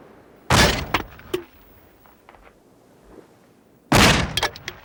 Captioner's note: gunshots booming